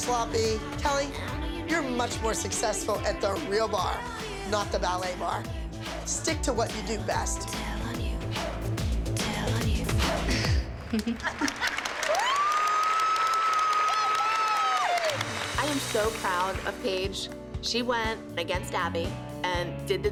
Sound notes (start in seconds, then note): 10.3 song ends; 10.9 applause, whooping; 13.4 cheering